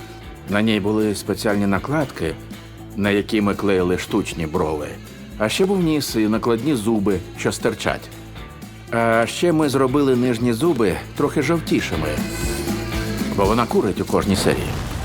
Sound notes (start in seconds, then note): 12.2 inhales